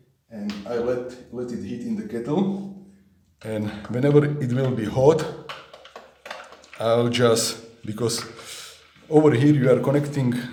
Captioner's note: boil